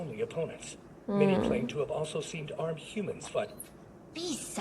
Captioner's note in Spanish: Gruñe el gato